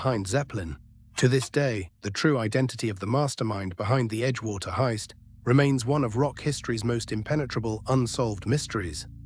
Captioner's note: SFX: clock ticking loudly